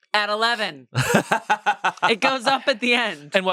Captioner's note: laughs